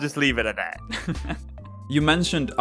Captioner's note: laughs